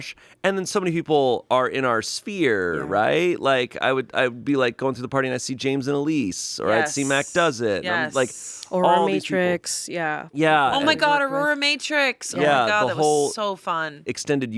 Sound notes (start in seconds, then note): none